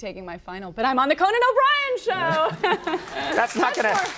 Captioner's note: laughs